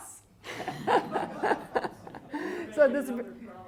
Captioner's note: laughing